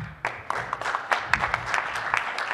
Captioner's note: applause